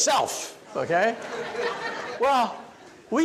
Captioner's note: audience laughs